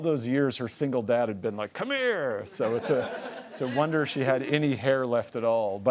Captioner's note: audience laughs